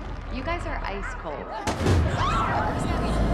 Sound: balloon pops; women shriek; echoing

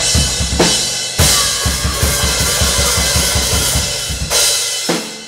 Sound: screaming

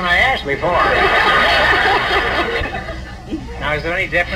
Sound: audience laughs

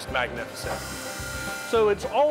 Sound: tool whirring

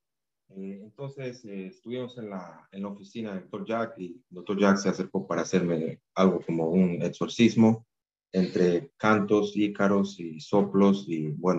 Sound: speaking in spanish

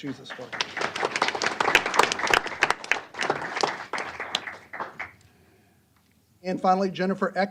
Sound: applause

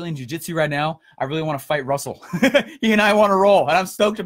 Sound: laughing

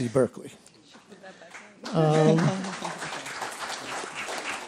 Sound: applause

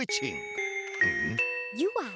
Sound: door bell rings

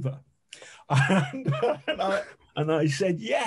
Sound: chuckling

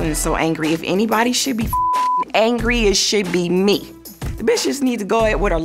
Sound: beep

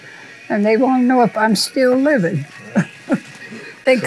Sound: laughs

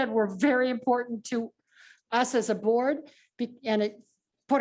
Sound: speaks in foreign language

